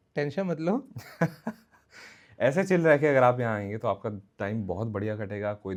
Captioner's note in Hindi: हंसी